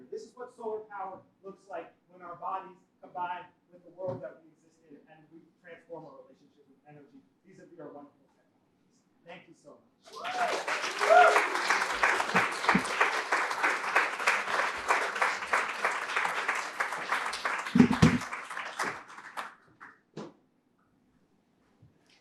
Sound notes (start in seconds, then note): 10.2 applause